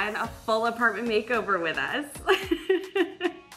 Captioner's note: laughs